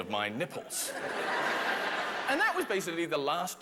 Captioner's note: laughter